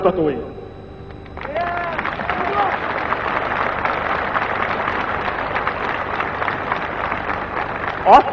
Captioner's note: applause, ovation